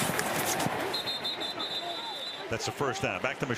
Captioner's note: whistle